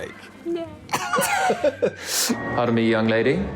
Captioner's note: laughter